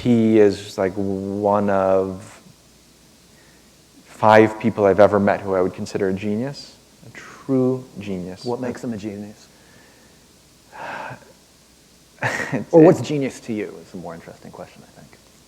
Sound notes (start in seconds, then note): 12.2 chuckle